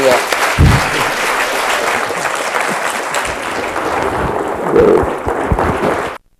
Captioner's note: applause